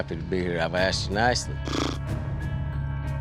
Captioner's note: blows raspberry; tense music